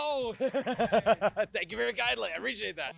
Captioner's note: laughs